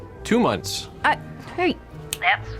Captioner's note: snaps fingers